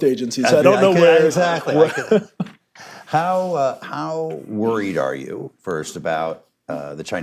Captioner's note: laughter